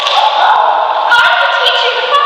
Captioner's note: slap